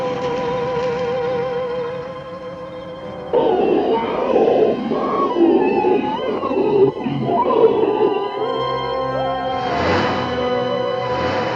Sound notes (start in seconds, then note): 3.3 growling